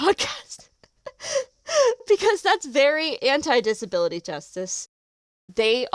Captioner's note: delighted laugh